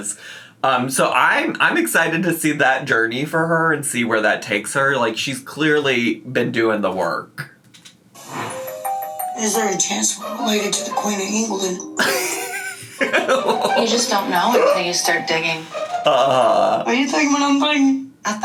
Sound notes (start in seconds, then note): 12.0 laughs